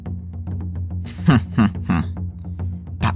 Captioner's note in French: rire diabolique